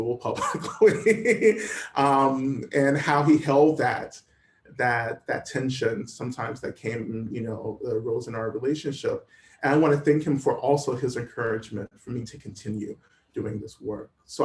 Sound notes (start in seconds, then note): 0.3 laughter